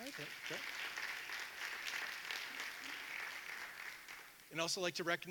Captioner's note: audience applauding